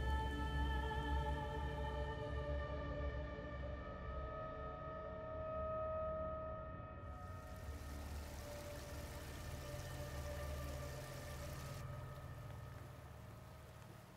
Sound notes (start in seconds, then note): 3.0 ominous music; 7.2 water rushing